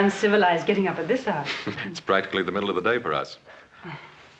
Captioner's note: chuckles